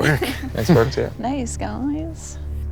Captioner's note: laughing